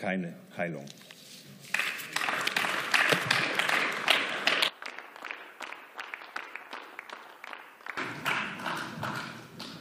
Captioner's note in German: Beifall